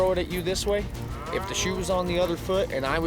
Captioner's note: cows mooing